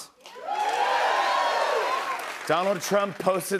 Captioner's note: cheers and applause